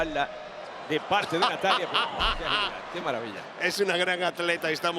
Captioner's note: laugh